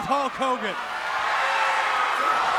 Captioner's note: audience cheers